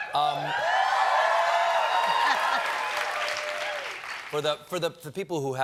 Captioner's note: cheers and applause